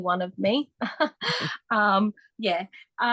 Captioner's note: laughs